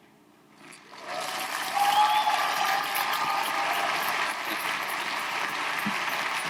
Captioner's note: audience applauding; audience cheering